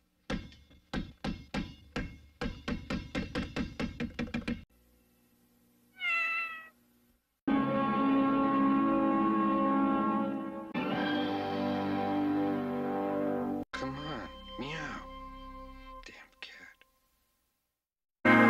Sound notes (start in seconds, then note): 0.1 basketball dribbling; 5.9 Mimsie mews; 7.5 snippeted music ending; 10.7 snippeted music ends